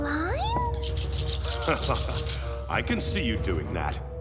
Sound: chuckles

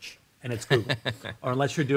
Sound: laughs

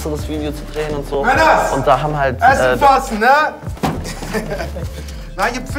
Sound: shouts

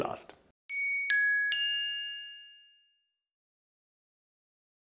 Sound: bell tones tinkle

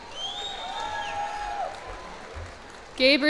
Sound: cheers and applause

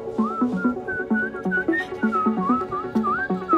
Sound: man whistling

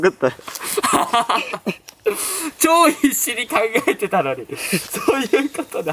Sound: laughs

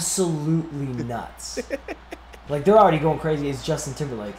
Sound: laugh

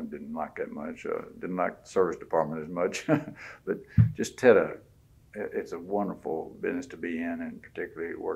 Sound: laughs

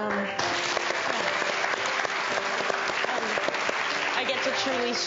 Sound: audience applauding

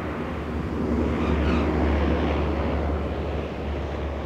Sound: aeroplane landing

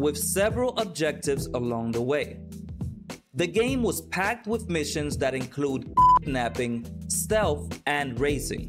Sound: beep

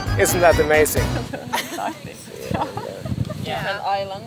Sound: laughing

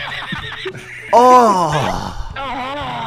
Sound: disgust

